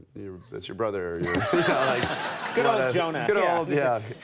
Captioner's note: crowd laughing